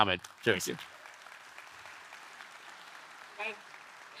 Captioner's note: audience applauding